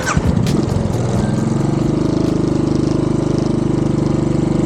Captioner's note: motorbike engine giving way to funky music